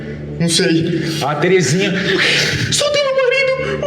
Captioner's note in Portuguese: risada